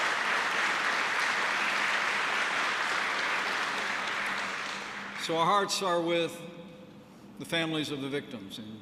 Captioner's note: applause